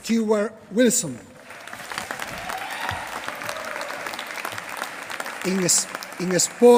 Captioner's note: applause